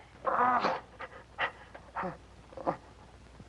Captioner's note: groaning